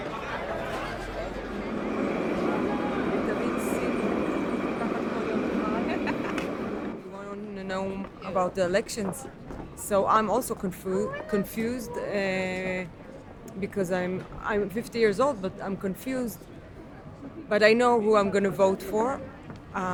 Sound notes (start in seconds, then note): 4.0 quietly talking